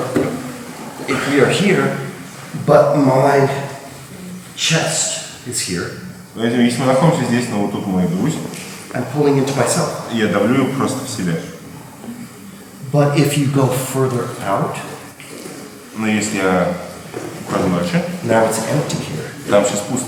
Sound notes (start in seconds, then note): 6.9 speaking in a foreign language; 10.4 speaking in a foreign language; 15.8 speaking in a foreign language; 19.8 speaking in a foreign language